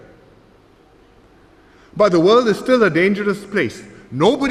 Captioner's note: none